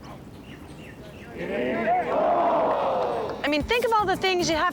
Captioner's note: crowd murmuring; groaning